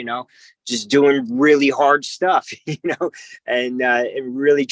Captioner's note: chuckles